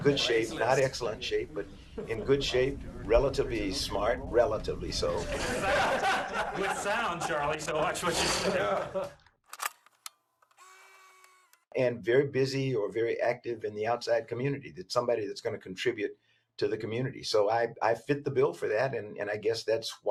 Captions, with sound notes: good shape, not excellent shape, but in good shape, relatively smart... relatively so. [ laughter ] There's sound, Chatlie. So watch what you say. [ mechanical click ] And very busy or very active in the outside community, that somebody that's going to contribute to the community. So I-I fit the bill for that. And I guess that's why I was selected.